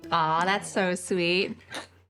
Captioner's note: glass clinking